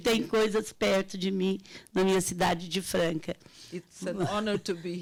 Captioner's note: speaking Portuguese